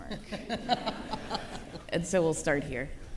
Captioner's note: laughing